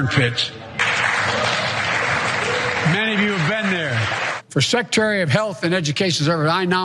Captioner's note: applause